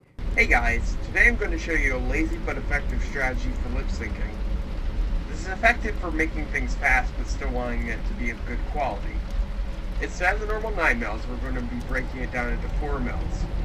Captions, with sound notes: [over tv] Hey guys, today I'm gonna show you a lazy but effective strategy for lip syncing. This is effective for making things fast but still wanting it to be of good quality. Instead of the normal 9 mouths, we're going to be breaking it down into 4 mouths.